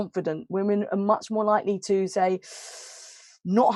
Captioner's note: hisses